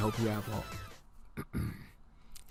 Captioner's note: clears throat